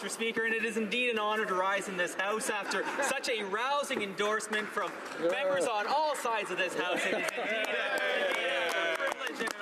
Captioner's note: some Applause